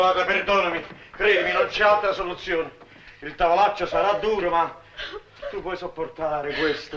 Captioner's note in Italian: piangendo